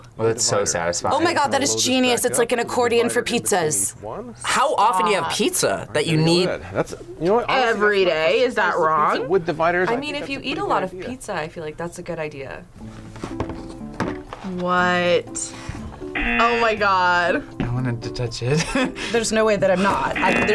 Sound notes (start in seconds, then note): 16.1 buzzer rings; 18.6 laughs; 20.1 buzzer rings